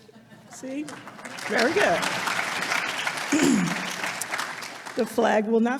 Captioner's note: audience applauding